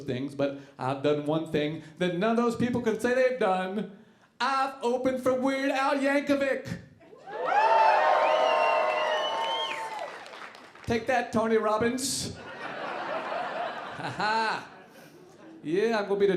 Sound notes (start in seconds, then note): 7.2 audience cheering; 12.4 audience laughing